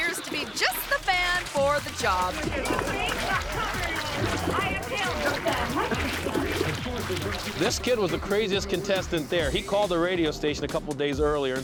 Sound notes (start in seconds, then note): 3.1 people chattering indistinctly; 5.9 manure squishing